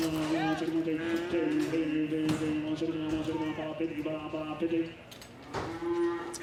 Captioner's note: cows lowing; crowd shouting; cows lowing